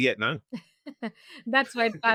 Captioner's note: laughing